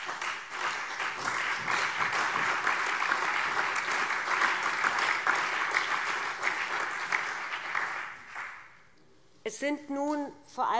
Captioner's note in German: Allgemeiner Beifall